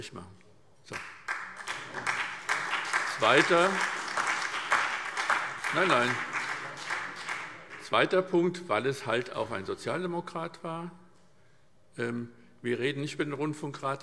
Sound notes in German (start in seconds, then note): 2.7 Beifall SPD und vereinzelt BÜNDNIS 90/DIE GRÜNEN